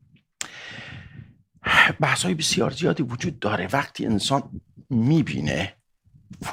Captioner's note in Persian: صدای آه